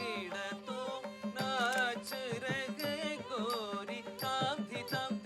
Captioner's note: camera clicking